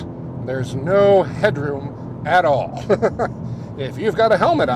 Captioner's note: laughs